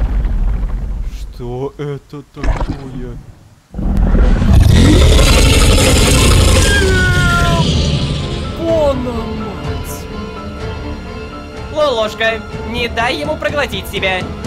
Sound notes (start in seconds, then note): 7.0 monster growling